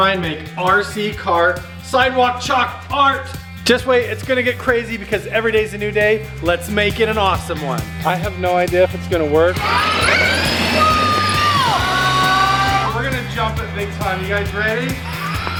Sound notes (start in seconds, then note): 9.4 RC truck accelerating